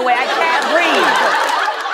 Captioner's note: laughter